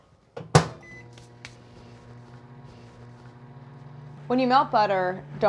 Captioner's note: microwave whirring